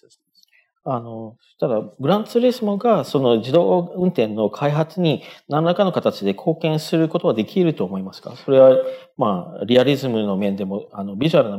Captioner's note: speaking japanese